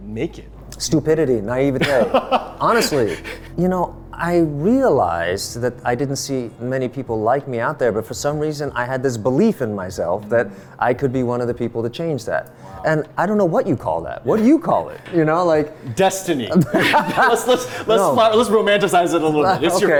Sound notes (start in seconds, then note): 1.8 laughing; 16.2 laughing